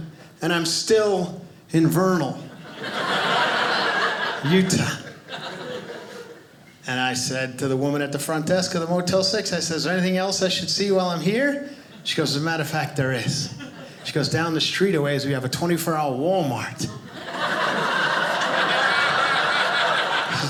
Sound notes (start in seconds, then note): 2.4 audience laughing; 16.9 audience laughing